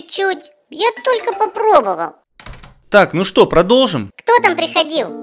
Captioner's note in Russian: Стук двери